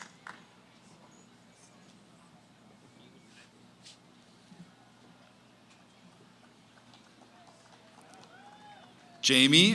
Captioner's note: applause, cheering; background conversations